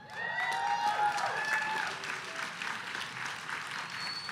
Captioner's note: audience cheering